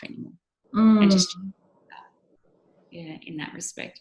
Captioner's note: microphone cutting out